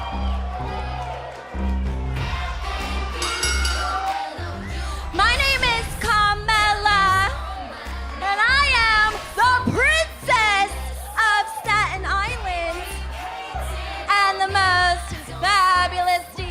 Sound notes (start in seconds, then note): 0.1 cheers & applause; 3.2 bell